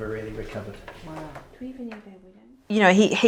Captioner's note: murmurs